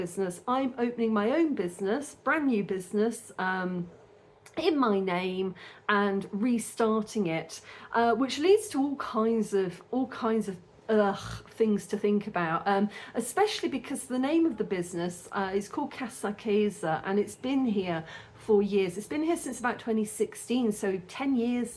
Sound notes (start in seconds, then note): 11.1 sigh